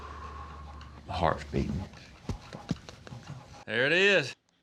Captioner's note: imitates heart thumps